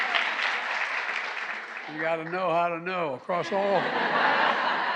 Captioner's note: applause